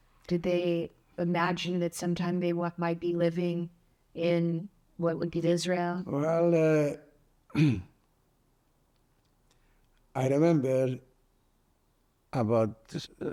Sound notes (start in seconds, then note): 7.5 clears throat